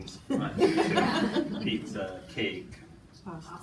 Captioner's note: participants laughing